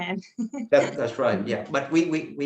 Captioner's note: chuckles